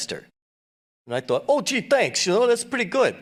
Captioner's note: brooklyn accent